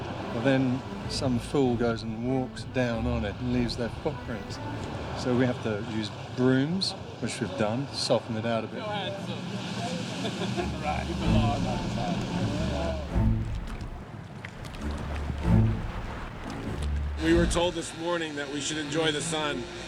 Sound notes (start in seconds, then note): 8.6 indistinct chatter; 10.2 chuckling